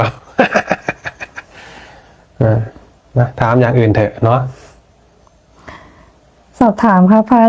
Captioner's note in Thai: เสียงหัวเราะ